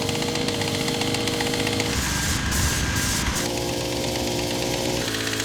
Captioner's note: spray paint engines churning